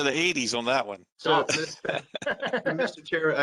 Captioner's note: laughter